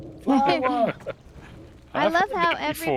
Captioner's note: laughter